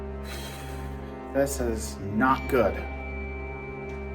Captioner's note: sighs